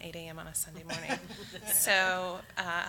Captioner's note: audience laughs